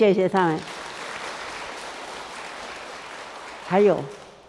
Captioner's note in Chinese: 眾人鼓掌